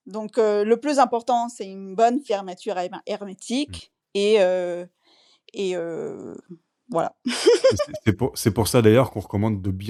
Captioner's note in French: rires